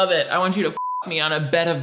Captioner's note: beep